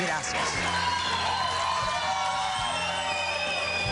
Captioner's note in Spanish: aplausos